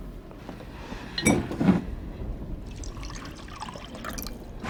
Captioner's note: bottle clinks